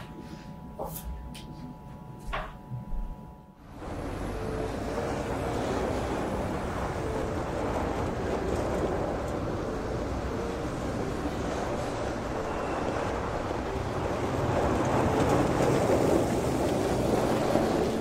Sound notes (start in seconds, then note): 4.1 mysterious music; 4.1 traffic humming